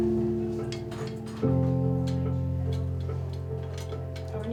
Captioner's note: metal clanging